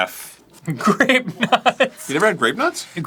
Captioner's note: laughing in disbelief